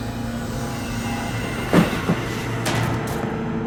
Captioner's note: knocking